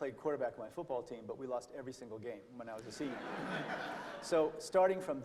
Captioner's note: laughter